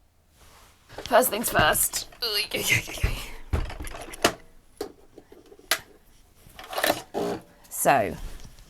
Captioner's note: heaving